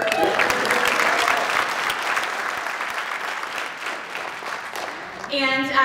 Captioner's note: applause